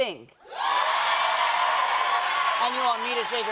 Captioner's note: cheers and applause